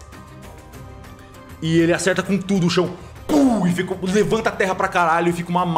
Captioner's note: pow